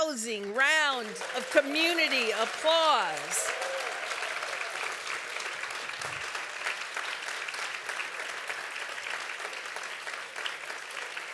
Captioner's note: applause